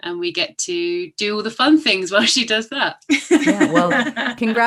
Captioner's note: laughter